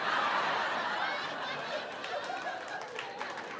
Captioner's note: laughter